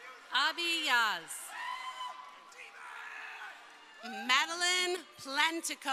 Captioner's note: crowd cheering